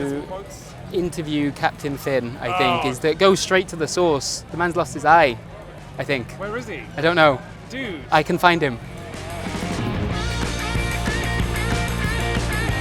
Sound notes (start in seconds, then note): 2.3 groans; 8.6 upbeat rock music